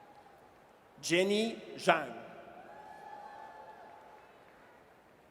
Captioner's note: audience cheers; audience cheers